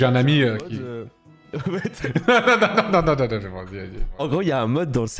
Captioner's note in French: rires